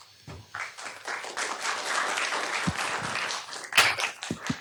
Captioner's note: applause